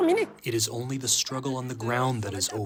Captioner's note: through translator